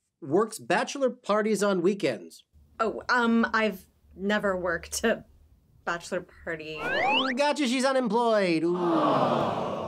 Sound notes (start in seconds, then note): 6.7 slide whistle